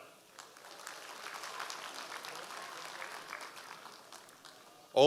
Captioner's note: audience applause